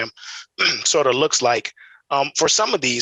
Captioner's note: clears throat